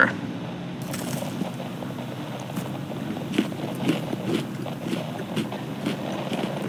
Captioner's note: more eating fx